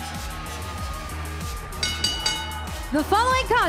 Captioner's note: bell ringing